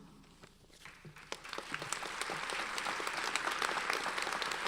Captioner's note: audience applauds